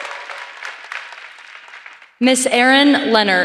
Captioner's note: applause